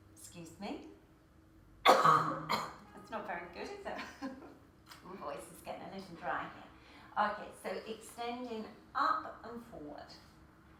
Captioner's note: laughter